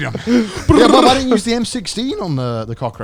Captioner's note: trilling